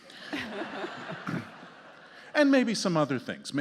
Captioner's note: justices and audience laughing